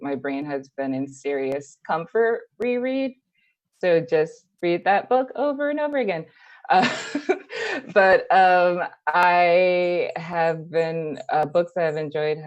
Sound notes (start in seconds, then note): 6.8 laughs